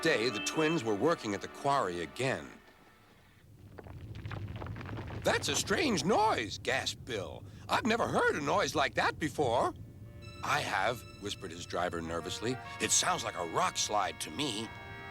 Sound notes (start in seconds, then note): 3.5 rumbling; 15.0 alarm blaring